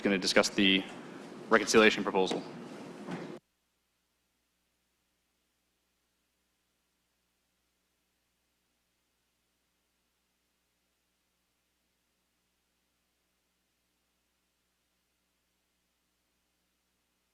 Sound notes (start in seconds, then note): 11.3 audio break